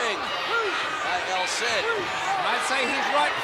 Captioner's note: crowd clamoring